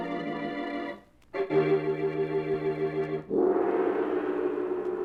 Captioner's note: roaring